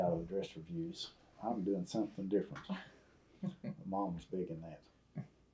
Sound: laughter

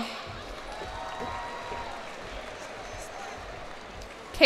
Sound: cheers and applause

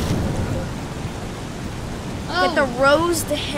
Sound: crash

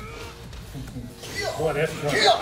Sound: laugh

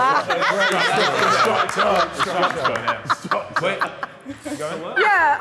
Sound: Sidemen clapping and laughing

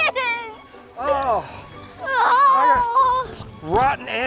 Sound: both groaning

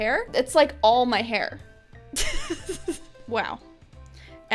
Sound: laughs

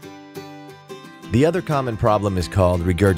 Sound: voiceover

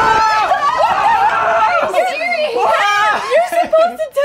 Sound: group screaming

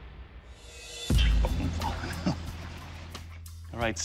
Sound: chuckles

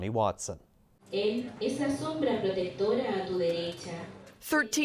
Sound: woman speaking Spanish

